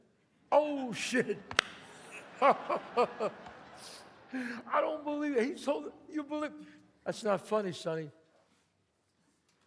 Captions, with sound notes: Oh shit. [claps] [chuckles] [audience laughs] I don't believe it. He told me you believed. That's not funny, Sonny.